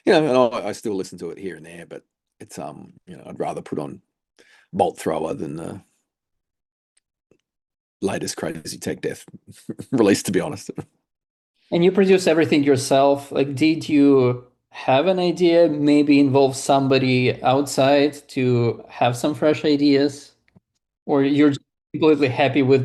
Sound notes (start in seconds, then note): 9.4 chuckles